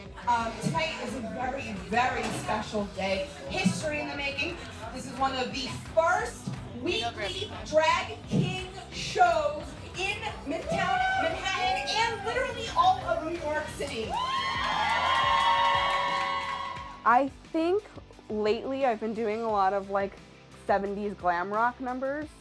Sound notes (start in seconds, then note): 14.0 audience cheering